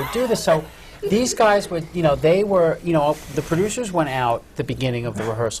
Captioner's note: more laughter from the panel